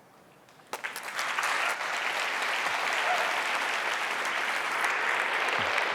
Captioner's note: audience applauds and cheers